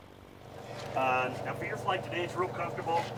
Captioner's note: plane engine hums